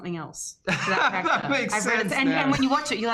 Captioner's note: laughs